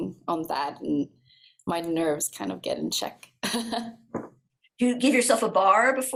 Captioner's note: laughs